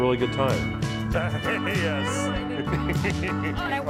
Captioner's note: laughing; laughs